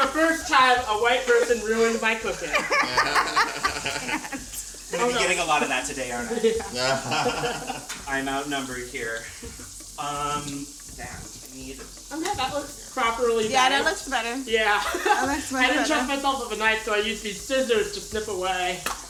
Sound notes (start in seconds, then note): 3.9 all laugh; 7.2 laughs